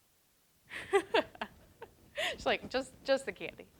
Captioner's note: laughs